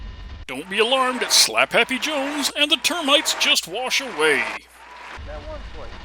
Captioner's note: applause retarts every second